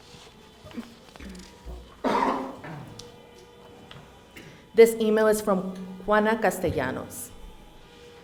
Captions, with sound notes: (coughs) This email is from Juana Castajanos.